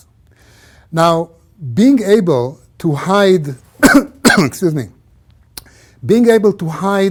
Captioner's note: cough